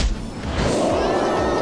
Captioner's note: roar; screaming